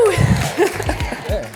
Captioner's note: chuckling